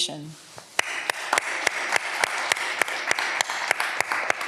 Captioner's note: audience applause